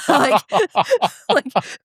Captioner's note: laughter